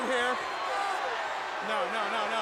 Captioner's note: crowd cheering